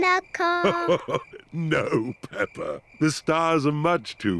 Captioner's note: chuckles